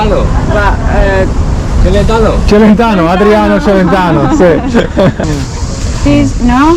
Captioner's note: laughing